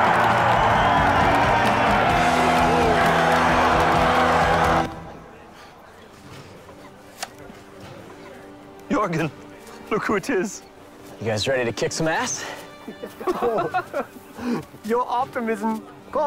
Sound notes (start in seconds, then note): 12.8 laughing